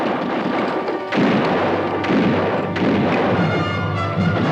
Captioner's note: guns fire